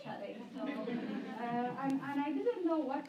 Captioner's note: laughter